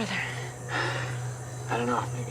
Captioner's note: sighs